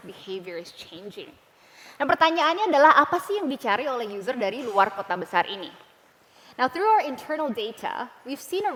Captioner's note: non-english speech